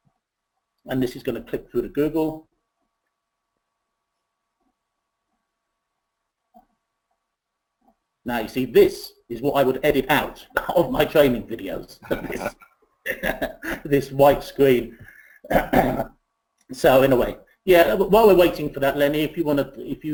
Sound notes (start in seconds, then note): 11.9 laughs